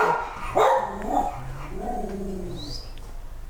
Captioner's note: dogs barking